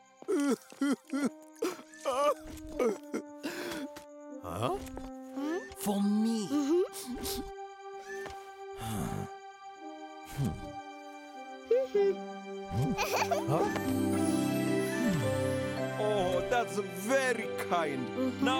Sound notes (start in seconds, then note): 1.6 Tobor continues sobbing; 7.1 sniffing; 8.8 sighs; 12.7 laughing; 14.9 groans softly